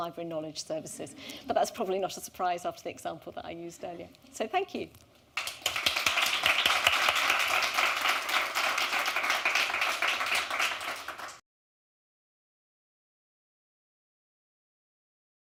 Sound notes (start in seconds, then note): 5.3 applause